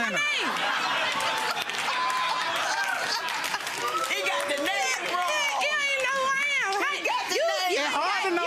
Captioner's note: audience laughs